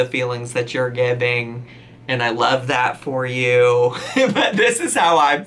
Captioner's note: laughs